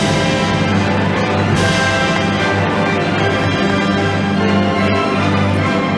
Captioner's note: audience applauding